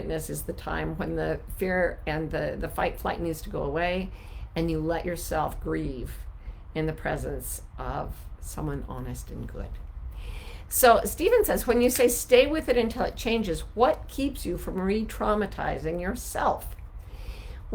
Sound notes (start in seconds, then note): none